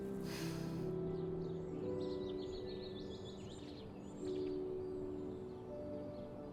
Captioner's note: birds chirping